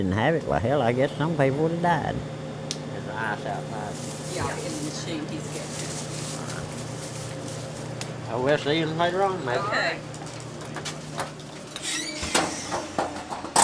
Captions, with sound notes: why hell, I guess some people would have died. Is the ice outside? - [Voiceover] Yeah in the machine, he's gettin' it. - Well we's see you's later on maybe. - [Voiceover] Okay.